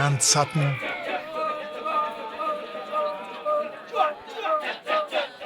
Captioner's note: chanting